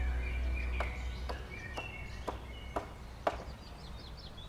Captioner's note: hammering